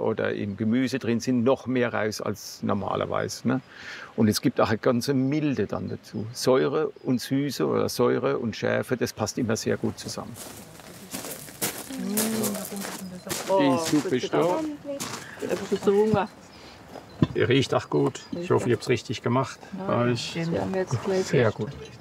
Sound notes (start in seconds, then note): 9.8 grinding sound of footsteps